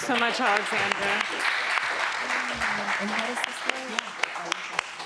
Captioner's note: audience clapping